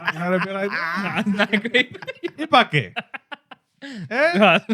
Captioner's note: laughing; speaking In Foreign Language